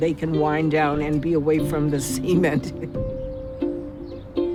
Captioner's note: laughs; gentle music